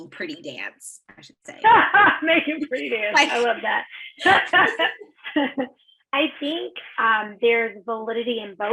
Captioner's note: laughs